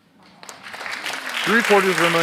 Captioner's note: audience applauds